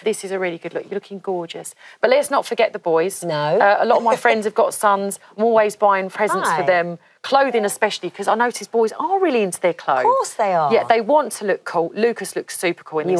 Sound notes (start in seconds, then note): 3.5 laughs